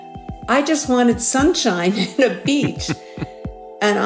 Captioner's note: chuckles